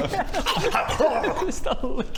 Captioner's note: nom nom nom